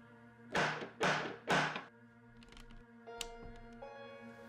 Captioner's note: door knocking